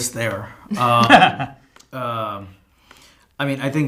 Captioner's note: laughing